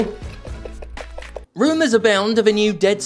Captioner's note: Boglin Noises